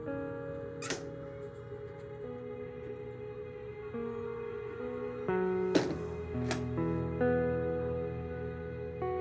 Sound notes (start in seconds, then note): 0.8 Door opens; 5.6 Door closes